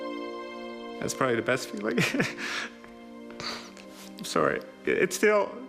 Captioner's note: laughs